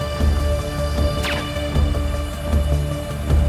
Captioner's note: gun fires; intense music continues